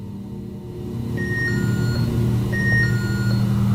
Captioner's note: The Rempod sounds affirming